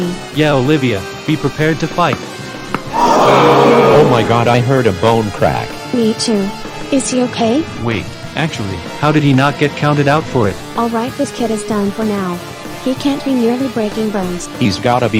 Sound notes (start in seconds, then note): 2.3 cracking; 2.9 audience gasping, horn sound